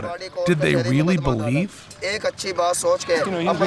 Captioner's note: non-english speech